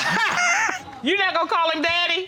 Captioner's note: laughter